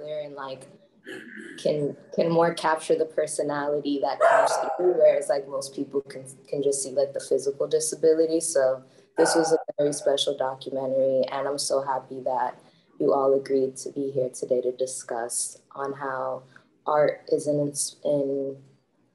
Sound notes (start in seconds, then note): 4.2 dog barking